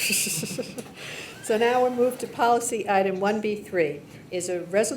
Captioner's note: laughing